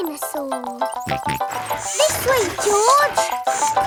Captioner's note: george snorts